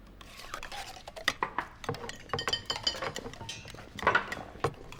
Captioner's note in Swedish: rätter klapprar